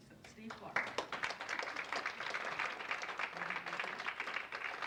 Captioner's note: audience applauds